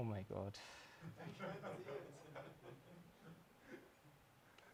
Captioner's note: attendee laughing